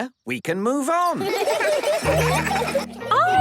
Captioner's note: laughter